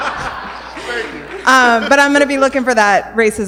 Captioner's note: laughter